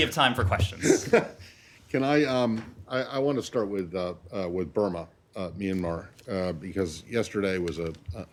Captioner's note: laughter